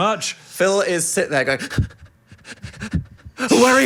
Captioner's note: heavily breathing